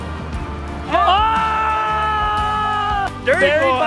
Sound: loud cheers

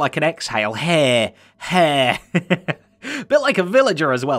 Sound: chuckles

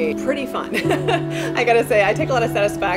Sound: laughs

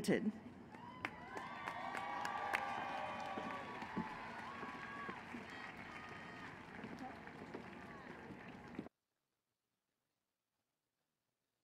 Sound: applause and cheering

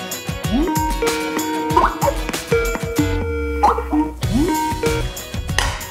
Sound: computer chimes

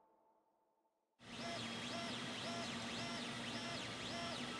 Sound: printer buzzing

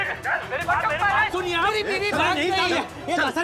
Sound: crowd clamouring

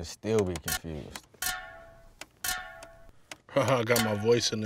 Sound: metal clanking

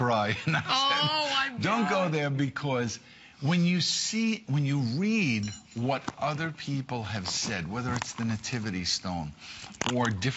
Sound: laughter

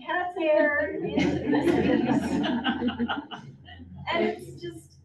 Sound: audience laughs

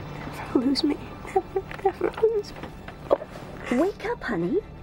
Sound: weeps

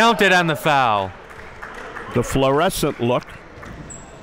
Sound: applauding

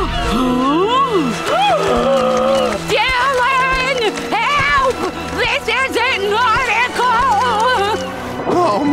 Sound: gasps

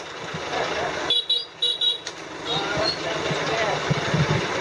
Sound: beeping

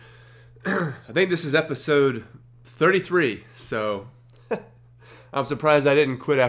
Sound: laughs

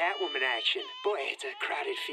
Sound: baby crying

